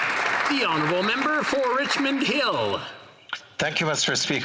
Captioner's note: some Applause